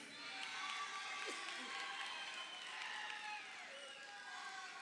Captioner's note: crowd cheering